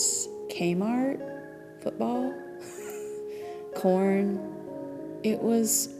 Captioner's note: laughs